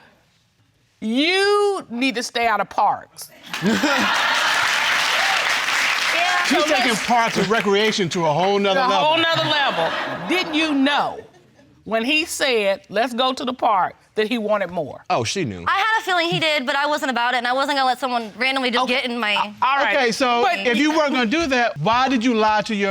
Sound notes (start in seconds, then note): 3.5 chuckles; 5.2 audience laughing and applauding